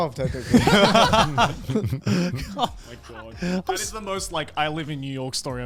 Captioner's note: all laugh